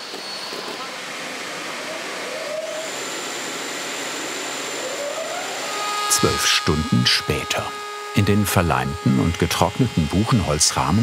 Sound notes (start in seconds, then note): 3.1 high whirring sound